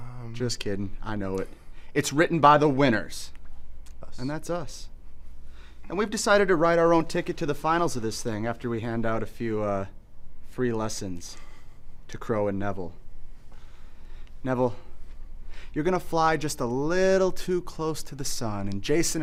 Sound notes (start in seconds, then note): none